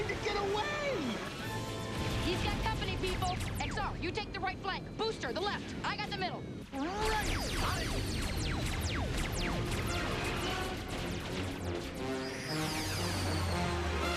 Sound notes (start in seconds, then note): none